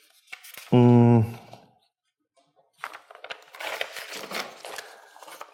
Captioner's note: papers rustling